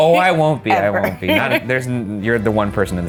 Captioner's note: laughing